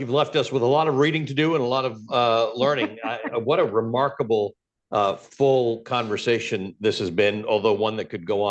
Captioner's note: laughter